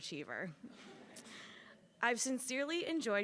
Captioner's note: attendees laughs